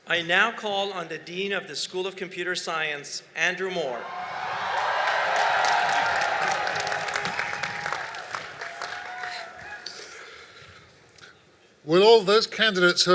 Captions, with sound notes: >> I now call on the Dean of the School of Computer Science, Andrew Moore. [ Cheering and Applause ] >> Will all of those candidates